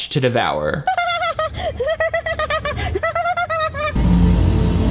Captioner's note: actress laughs; intense instrumental music